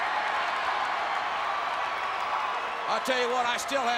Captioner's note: crowd cheering